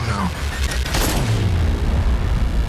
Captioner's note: shooting